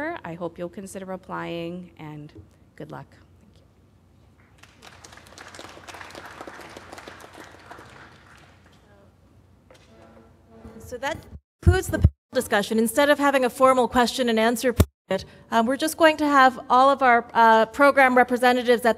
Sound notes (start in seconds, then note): 4.5 applause